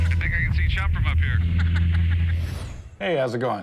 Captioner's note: laughs